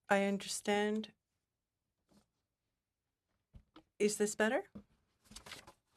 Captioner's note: speaking in French